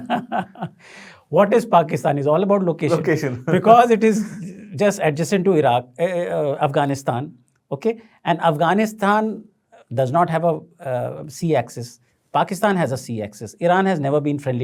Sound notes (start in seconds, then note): 0.0 laughs; 2.9 chuckles